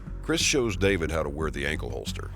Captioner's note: voiceover